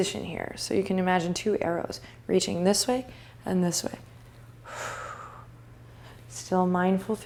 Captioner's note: breathing